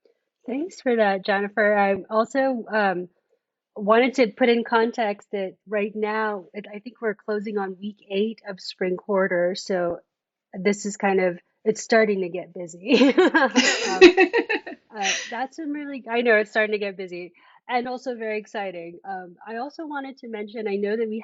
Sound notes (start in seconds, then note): 13.0 laughs